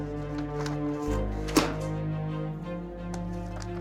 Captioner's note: bangs table